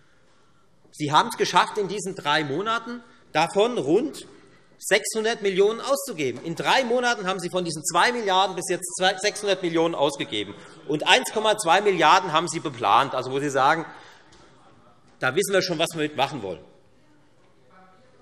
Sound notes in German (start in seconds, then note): none